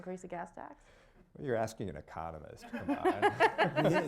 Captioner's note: laughter